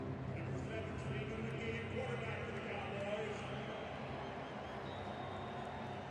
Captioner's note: pa announcement